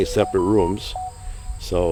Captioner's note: phone beeping sound